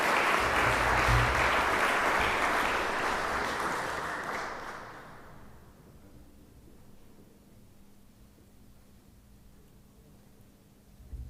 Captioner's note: applause